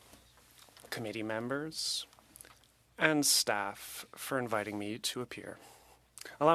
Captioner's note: speaking French